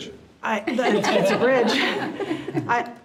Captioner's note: all laughing